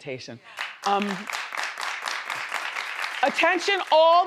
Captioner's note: crowd applauding